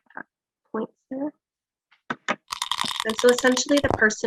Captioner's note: die rattling